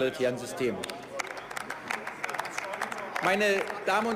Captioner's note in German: Beifall